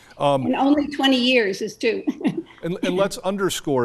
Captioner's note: laughs